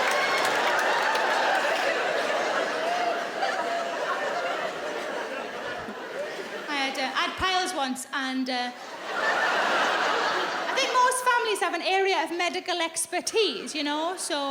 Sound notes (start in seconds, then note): 8.7 audience laughing